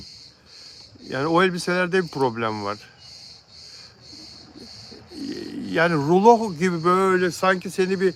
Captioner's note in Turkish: homurdanır